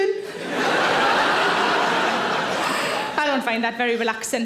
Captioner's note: audience laughing